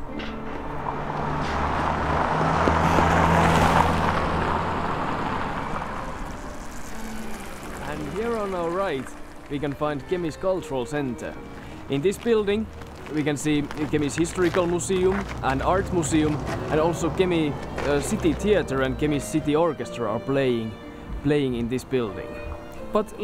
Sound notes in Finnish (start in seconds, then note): 0.9 auto lähestyy; 2.9 auto kaahaa ohitse